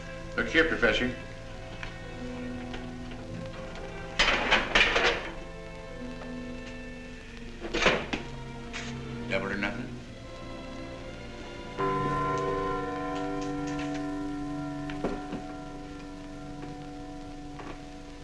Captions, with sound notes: Look here, Professor. Double or nothing? (CLOCK CHIMING)